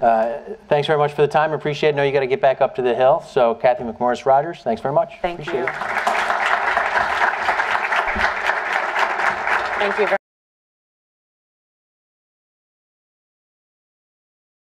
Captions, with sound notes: I KNOW YOU HAVE TO GET BACK UP TO THE HILL. THANK YOU VERY MUCH. [APPLAUSE]